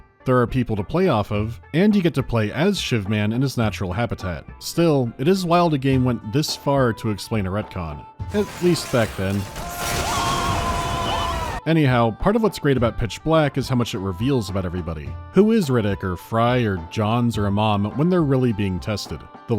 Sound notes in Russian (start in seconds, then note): 8.3 крик Марва